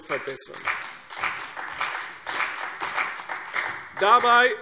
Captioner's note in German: Beifall CDU und BÜNDNIS 90/DIE GRÜNEN